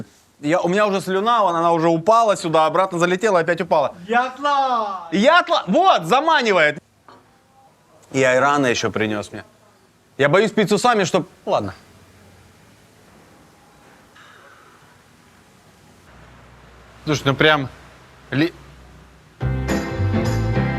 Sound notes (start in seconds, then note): 4.0 something in Turkish